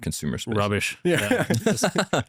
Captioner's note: laughs